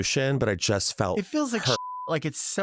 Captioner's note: beep